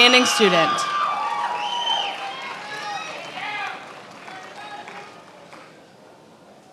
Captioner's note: attendees applauding and cheering